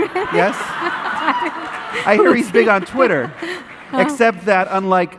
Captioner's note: audience laughing